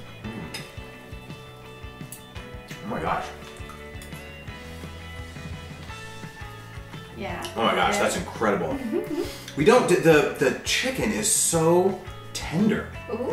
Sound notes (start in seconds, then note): 8.8 giggles